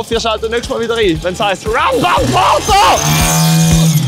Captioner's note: is-possessed-sounds